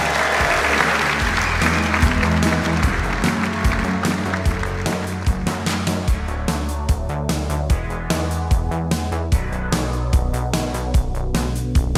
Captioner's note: applause